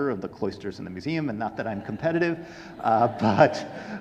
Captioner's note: audience laughing